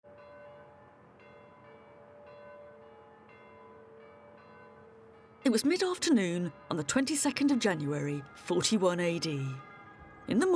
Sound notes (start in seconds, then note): 0.1 church bells ringing